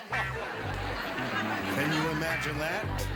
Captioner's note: laughter